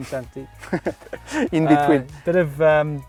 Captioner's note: laughs